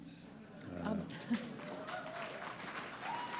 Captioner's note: applause